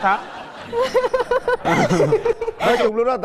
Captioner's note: laughing